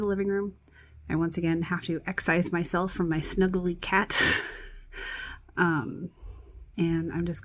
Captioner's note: chuckles